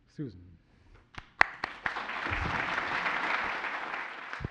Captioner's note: applause